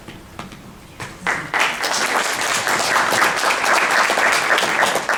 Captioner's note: clapping